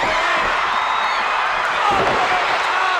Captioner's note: crowd cheer